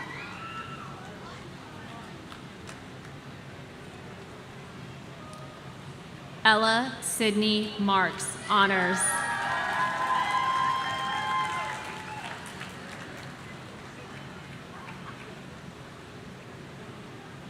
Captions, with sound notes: Ella Sydney Marks, honors. (audience cheering)